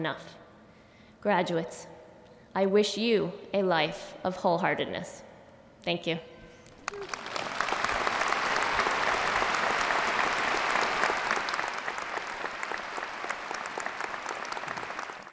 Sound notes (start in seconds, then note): 6.2 applause